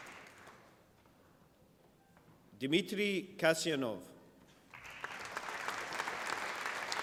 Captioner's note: applause